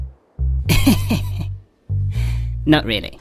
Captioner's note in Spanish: Risas